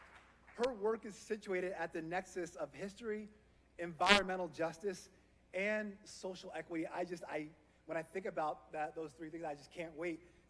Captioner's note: applause